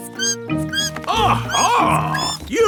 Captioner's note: bat squeaking